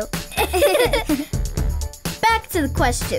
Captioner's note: giggling